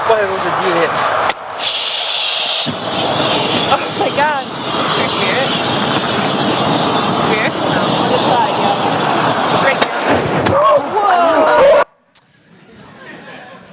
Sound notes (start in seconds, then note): 0.2 people speak in the background; 5.2 people talk in the background